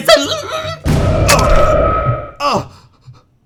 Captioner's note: explosion